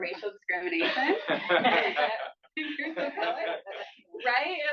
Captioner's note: laughter